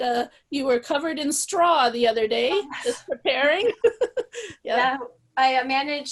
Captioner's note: laughs